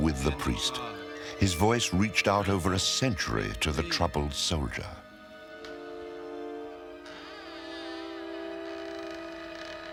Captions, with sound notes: His voice reached out over a century to the troubled soldier. [door creaks]